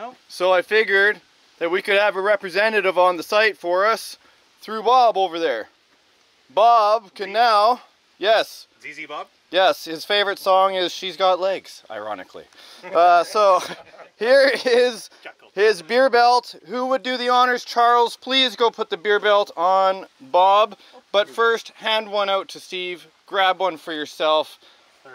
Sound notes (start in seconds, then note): 12.9 chuckles; 13.4 all laughing